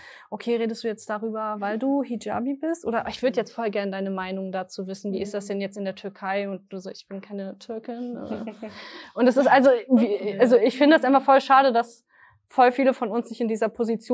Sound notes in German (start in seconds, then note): 10.5 Gelächter